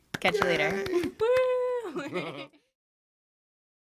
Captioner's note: cheers